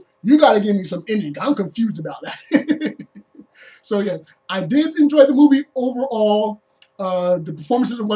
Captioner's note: laughs